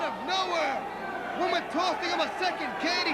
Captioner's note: crowd cheering